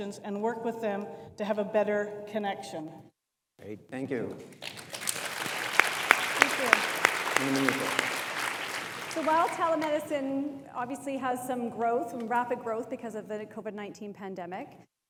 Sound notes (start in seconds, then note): 4.6 audience applauds